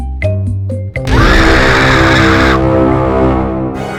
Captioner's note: waiting Room Music; screams; intro Music